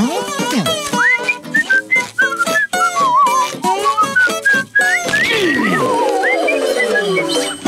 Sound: whistling

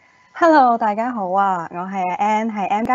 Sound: Cantonese

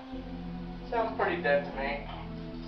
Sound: on Radio

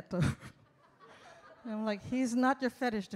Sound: audience laughs

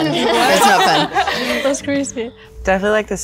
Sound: all giggling

